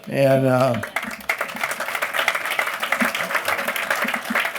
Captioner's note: applause